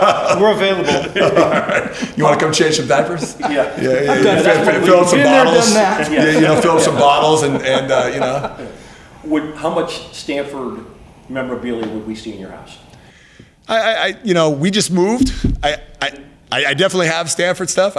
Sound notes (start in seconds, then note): 8.6 laughs